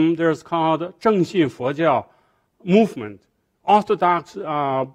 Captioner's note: speaking foreign language